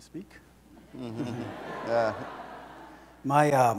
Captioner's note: audience laughs